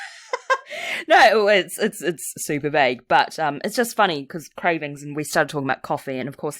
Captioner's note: laughs